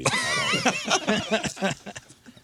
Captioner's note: laughing